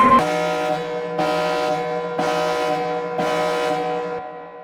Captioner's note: alarm resounding